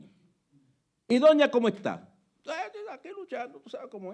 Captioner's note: speaking Spanish